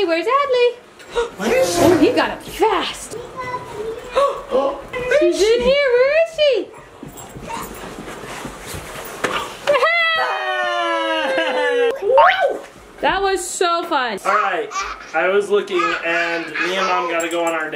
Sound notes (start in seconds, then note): 4.1 parents gasp; 9.6 joyous yelling